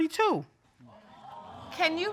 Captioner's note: audience exclaiming